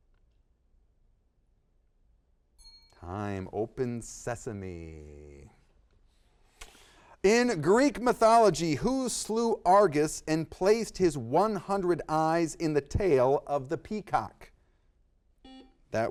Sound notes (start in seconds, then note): 2.6 bells dings